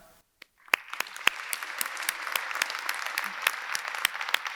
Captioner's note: audience clapping